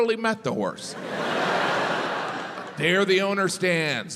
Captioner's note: crowd laughs